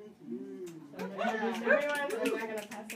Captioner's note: audience applauds